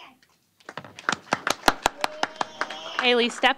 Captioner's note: applause